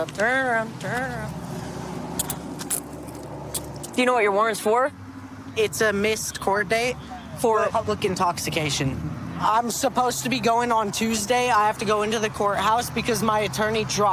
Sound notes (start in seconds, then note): 2.2 handcuffs clicking